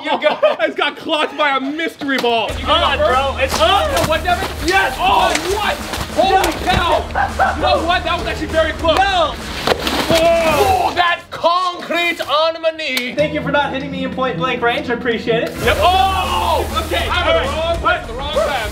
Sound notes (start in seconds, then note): 7.1 laughter; 10.0 splashing; 15.5 water spraying; 15.7 screaming